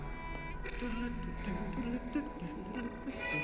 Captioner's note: hums